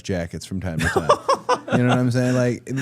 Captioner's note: Jimmy laughing